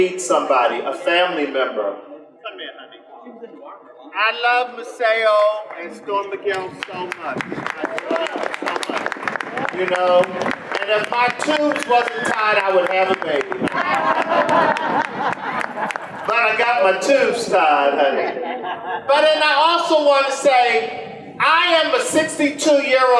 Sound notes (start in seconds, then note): 8.2 audience applause; 13.4 general laughter